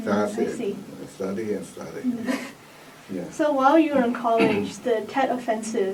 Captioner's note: laughs